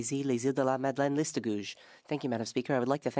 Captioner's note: speaking French